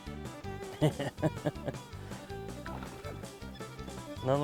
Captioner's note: laughter